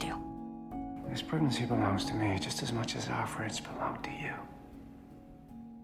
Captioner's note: voiceover